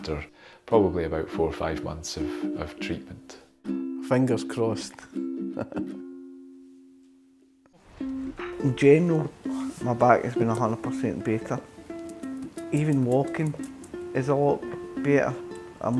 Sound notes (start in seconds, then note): 5.4 laughs